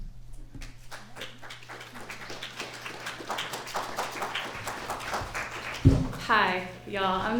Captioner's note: applause